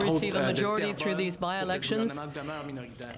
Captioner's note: speaking French